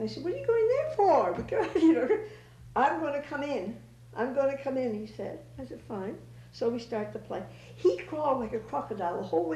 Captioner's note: laughter